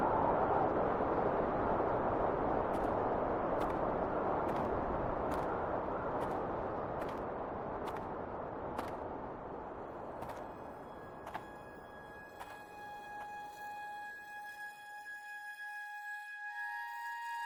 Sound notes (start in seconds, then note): 2.8 footsteps crunching; 2.8 wind whistling continues; 9.9 gentle music